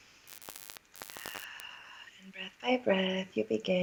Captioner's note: breath